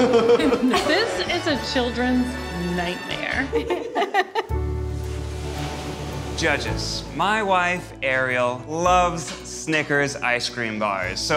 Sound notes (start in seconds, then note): 4.9 waves crashing